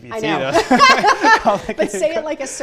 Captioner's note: laughter